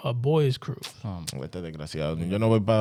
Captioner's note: speaking In Foreign Language